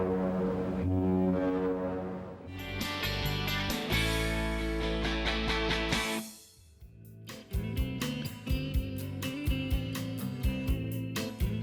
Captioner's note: horn blaring